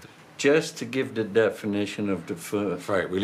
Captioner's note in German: Sie beraten sich auf Englisch